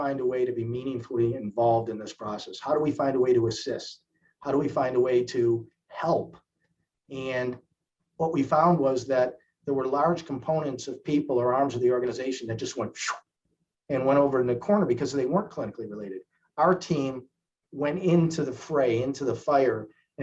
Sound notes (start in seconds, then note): 13.3 swoosh noise